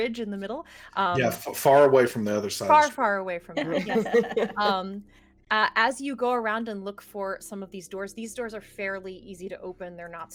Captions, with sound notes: bridge in the middle. - Yeah, far away from the other Silas. - Far, far away from there. (everyone laughs) As you go around and look for some of these doors, these doors are fairly easy to open.